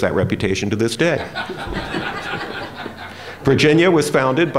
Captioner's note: laughter